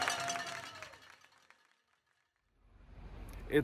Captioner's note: silence